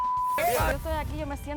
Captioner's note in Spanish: Bip